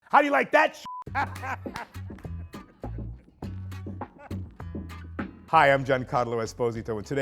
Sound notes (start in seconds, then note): 0.8 beep; 1.1 laughing